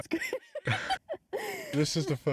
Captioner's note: laughing